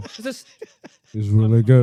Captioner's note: laughing